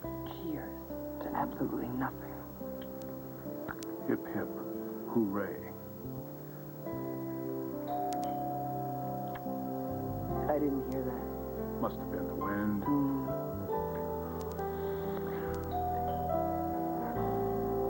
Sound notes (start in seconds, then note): 9.5 doorbell rings; 17.5 rings